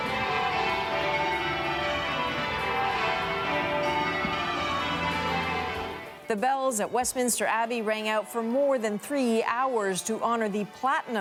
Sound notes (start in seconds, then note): 0.0 bells tolling